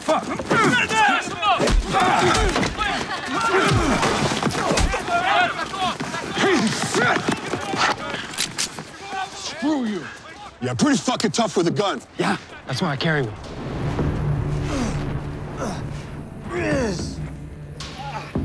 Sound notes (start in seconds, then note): 1.8 fighting noises; 3.3 crowd clamoring; 7.8 click; 15.5 grunting